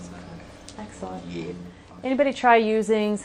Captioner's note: voiceover